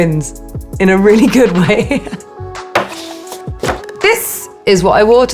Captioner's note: Alexa laughing